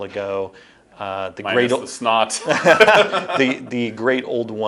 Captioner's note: laughing